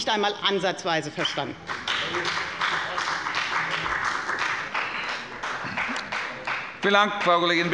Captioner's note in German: Beifall bei der FDP